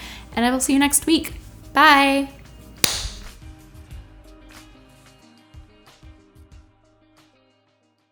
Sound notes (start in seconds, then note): 2.8 clap; 4.3 gentle music